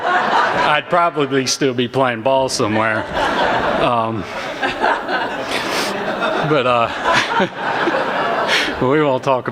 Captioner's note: laughter